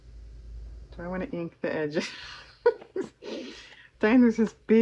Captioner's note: laughs